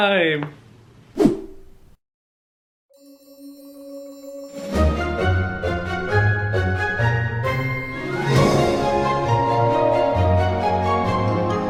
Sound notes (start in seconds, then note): 1.2 slide whooshes; 3.0 cheery playful music